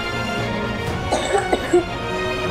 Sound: Bunty coughing

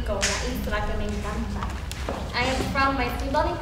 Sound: speaking foreign language

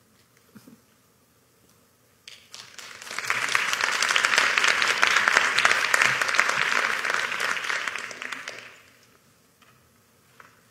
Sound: applause

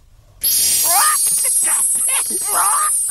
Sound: shimmering; squawking

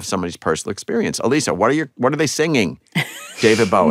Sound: laughter

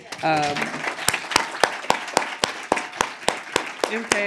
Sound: applause

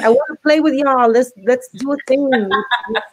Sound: laughs

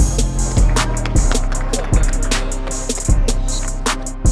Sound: crowd applauding

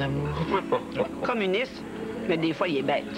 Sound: Rire

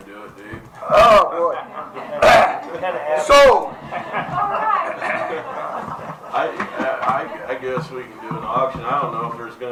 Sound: laughter

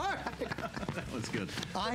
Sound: laughter

